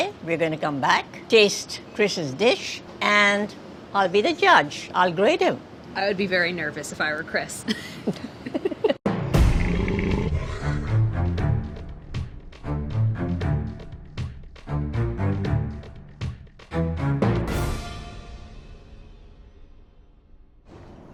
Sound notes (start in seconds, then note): 8.0 laughing; 9.7 intense music